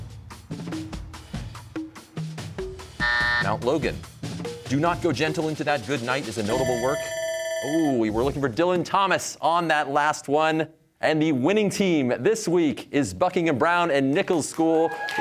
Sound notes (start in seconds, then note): 3.0 buzzer sounds; 6.4 bell ringing